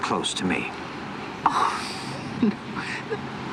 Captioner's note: chuckles